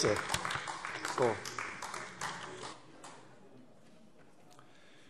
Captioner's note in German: Beifall AfD